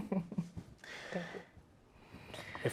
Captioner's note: chuckling